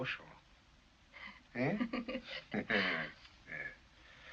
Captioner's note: laughs